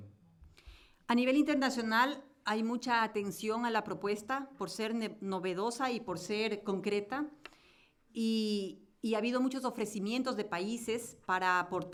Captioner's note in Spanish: Español